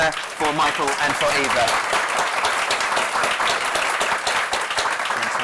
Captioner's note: applause